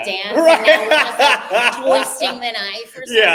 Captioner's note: laughing